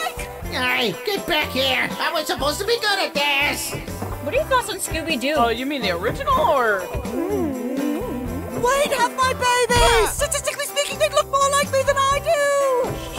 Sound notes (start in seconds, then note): 7.0 sounds of both of them making out; 9.7 LINK yelps